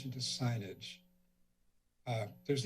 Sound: silence

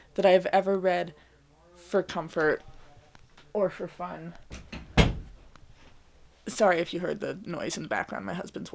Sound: door click

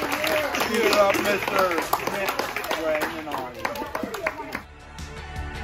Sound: laughter, applause, cheering

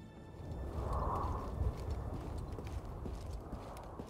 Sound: wind blowing

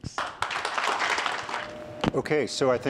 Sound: applause

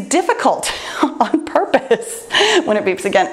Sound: laughs

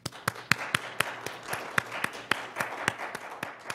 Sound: audience applauds

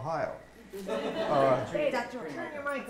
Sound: audience laughing

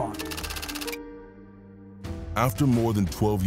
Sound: keyboard clacking

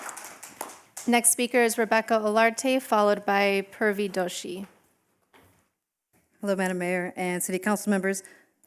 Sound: applause

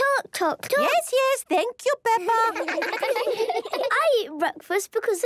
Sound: children laughing

